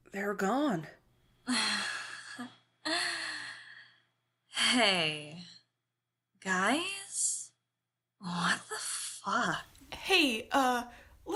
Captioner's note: nervous laughter